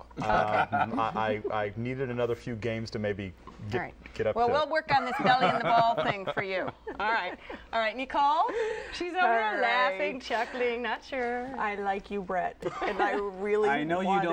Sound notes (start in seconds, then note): 1.9 laughter